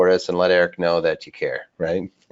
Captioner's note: chuckles